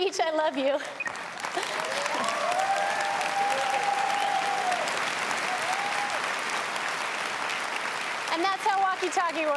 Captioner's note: applause